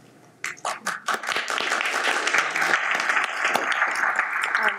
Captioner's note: audience applauds